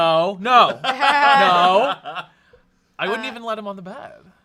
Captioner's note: off-camera laughing